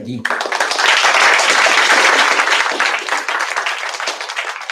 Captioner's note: applause